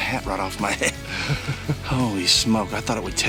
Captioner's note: chuckling in background